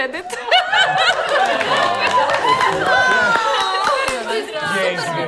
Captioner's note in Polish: Gromkie brawa